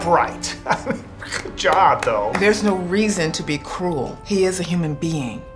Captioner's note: laughs